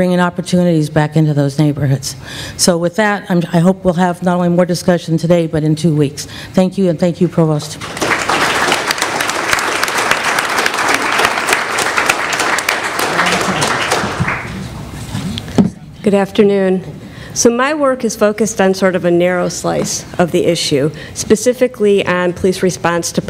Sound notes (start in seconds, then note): 7.8 applause